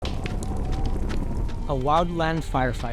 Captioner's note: fire sizzling, wind whirring